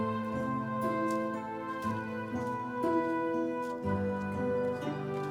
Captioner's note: footsteps thudding